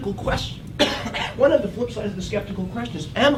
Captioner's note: cough